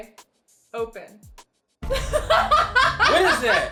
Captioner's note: laughs